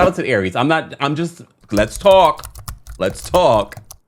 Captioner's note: keys clicking